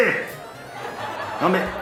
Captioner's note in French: Rires